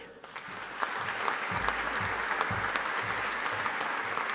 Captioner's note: audience applauding